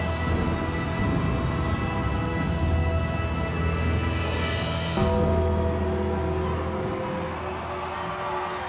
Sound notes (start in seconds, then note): 2.7 ominous music continues; 5.0 audience cheers